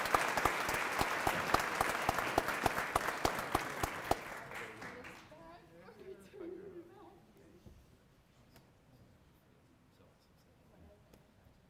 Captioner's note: applause